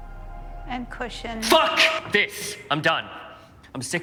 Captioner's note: yelling